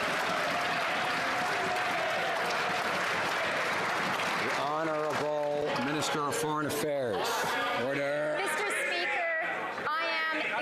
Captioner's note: some Applause